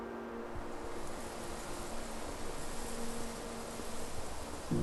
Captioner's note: needles rustling